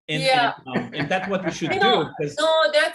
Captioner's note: laughter